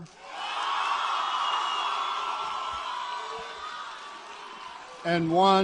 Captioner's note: applause